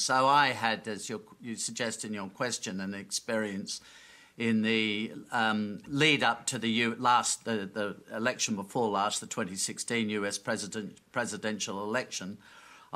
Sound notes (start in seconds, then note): none